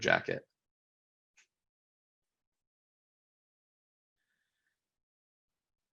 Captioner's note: silence